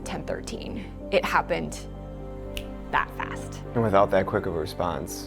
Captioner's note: snaps fingers